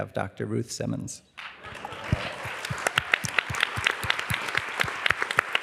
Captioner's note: applause